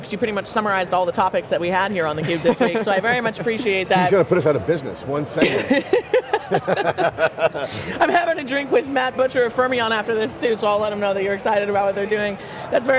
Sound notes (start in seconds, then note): 5.4 laugh